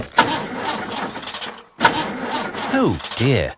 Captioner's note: engine sputtering